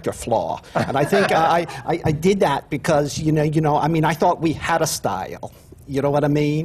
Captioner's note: laughter